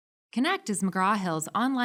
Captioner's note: voiceover